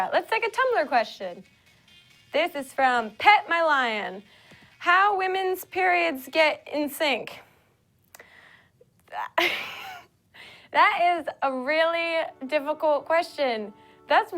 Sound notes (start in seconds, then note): 9.7 laughs